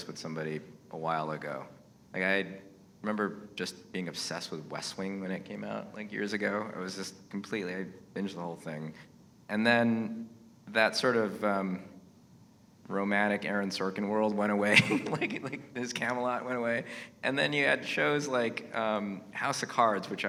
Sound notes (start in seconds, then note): 14.7 laughs